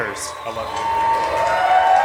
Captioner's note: cheering